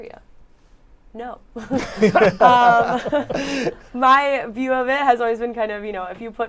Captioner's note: laughter